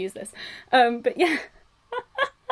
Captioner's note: laughs